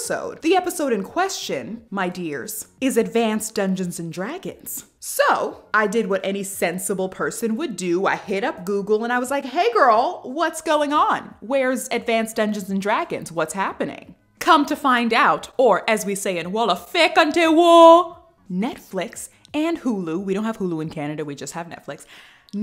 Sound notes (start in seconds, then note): 16.7 talking In Wolof